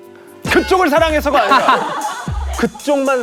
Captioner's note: yelling